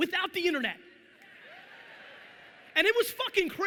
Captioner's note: audience laughing